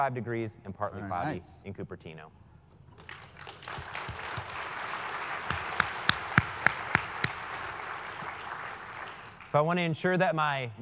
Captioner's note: applause